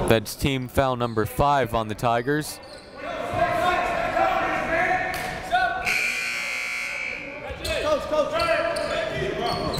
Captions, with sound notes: That's team foul number five on the Tigers. (crowd talking) (coaches yelling) (buzzer goes off)